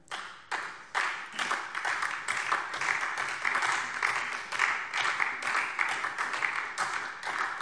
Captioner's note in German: Beifall SPD und DIE LINKE